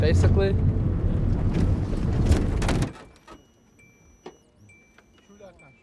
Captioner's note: car stopping, beeping